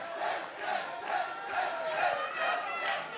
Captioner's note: fans chanting